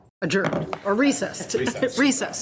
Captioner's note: laughs; participant laughs